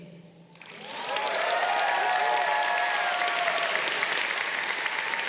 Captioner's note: crowd cheering